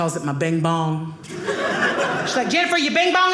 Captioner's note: audience laughing